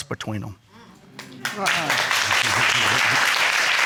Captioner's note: applauding